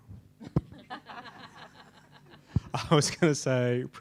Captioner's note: people laughing